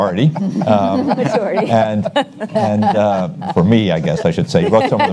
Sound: audience laughs

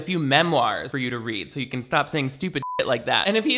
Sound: beep

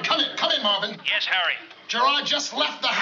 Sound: on walkie-talkie

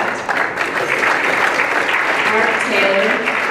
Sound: applause

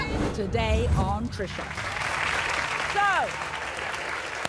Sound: audience clapping

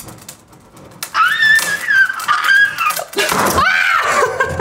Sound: wood snapping; screaming; laughing; screaming; wood thudding

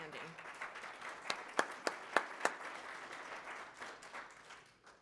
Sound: applause

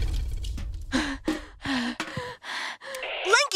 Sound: panting

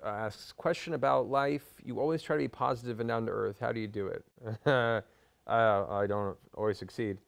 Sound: laughs

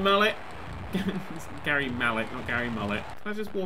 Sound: chuckle

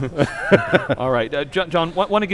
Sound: laugh

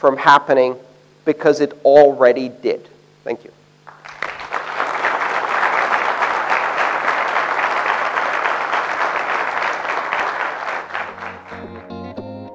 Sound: applause

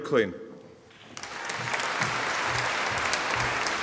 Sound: audience applauding

